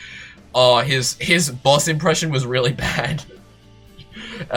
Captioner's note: laughter